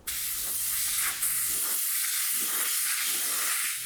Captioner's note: air spraying